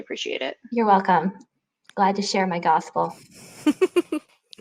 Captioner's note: laughing